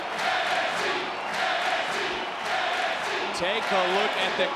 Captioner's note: crowd cheers and chants